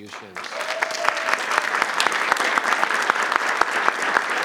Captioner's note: audience applauds